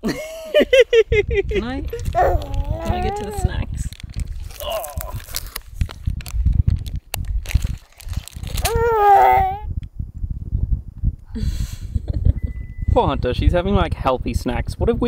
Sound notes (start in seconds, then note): 0.1 laughing; 8.6 grunts